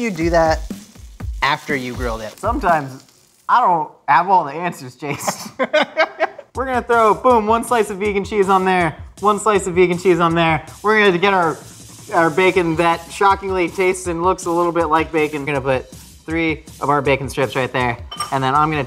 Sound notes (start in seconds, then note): 5.0 men laugh